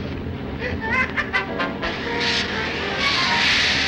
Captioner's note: Joe laughs